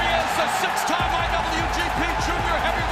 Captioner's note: crowd cheering